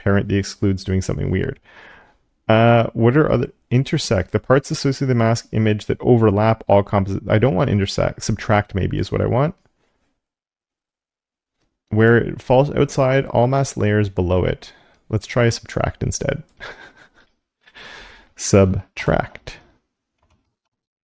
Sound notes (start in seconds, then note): 16.6 laugh